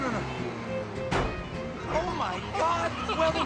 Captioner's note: metal collides